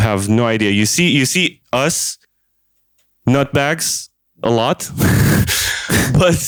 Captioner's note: laughs